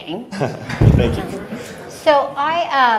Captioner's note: everyone laughs